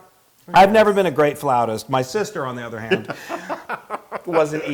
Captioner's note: laugh